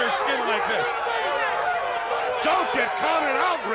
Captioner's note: crowd yelling